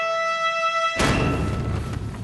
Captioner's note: trumpet fanfare; crash